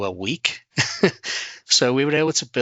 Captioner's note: laughter